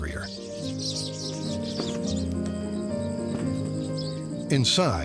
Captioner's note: birds twittering